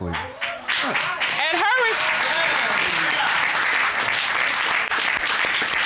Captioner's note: audience cheering, applauding